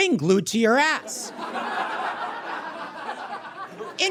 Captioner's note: audience guffaws